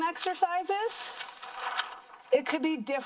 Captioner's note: paper rustling